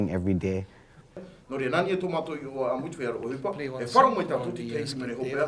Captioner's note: speaking Tahitian language